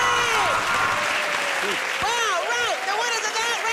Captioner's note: cheers and applause